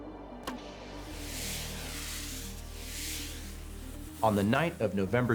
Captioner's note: flares hissing